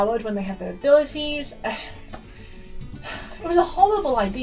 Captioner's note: sighs at self